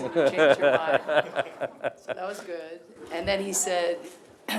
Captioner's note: laughter